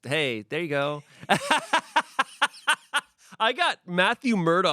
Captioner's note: everyone laughs